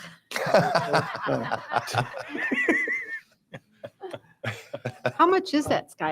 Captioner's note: board members Laughing